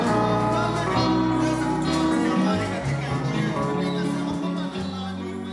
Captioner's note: speaking in foreign language